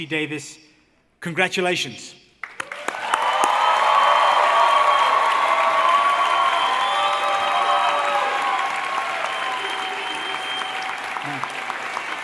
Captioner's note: applause